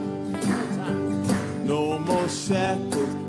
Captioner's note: hands clapping